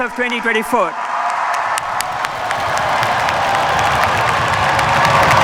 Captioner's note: cheers, applause